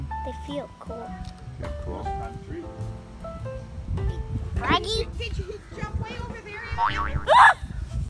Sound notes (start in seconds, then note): 6.6 screaming